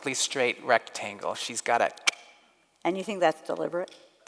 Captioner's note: clicks